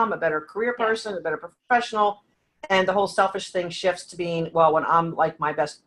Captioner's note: none